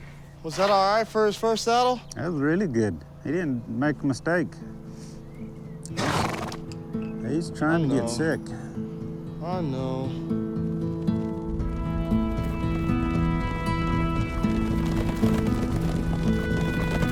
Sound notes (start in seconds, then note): 5.9 sneezing; 8.9 sympathetically